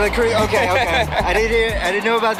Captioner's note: laughing